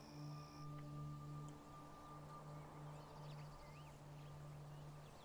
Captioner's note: birds chirping